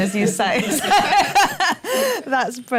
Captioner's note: laughter